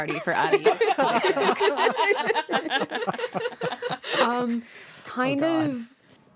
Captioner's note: laughter